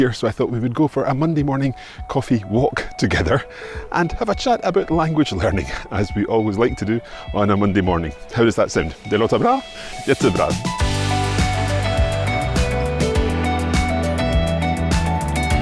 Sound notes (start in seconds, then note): 9.2 speaks Swedish; 10.6 upbeat music